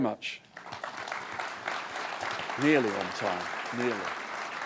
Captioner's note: applause